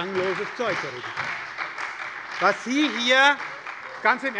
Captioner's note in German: Beifall bei der SPD - Lachen bei der CDU